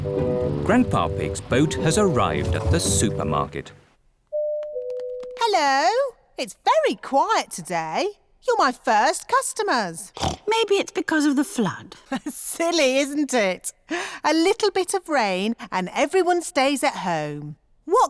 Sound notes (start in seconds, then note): 10.1 snorts; 12.5 laughs